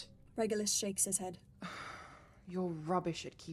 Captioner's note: Regulus sighs heavily